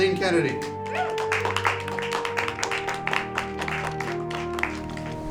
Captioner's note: applauding